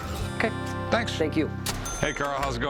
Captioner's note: ca-ching